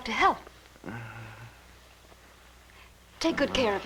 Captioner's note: groaning